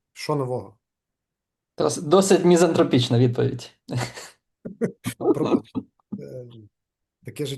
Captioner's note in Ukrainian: сміється